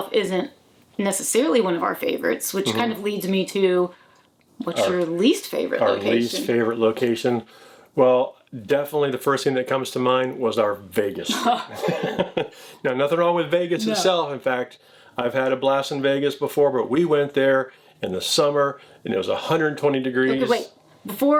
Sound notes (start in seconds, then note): 11.3 laughs; 11.3 chuckling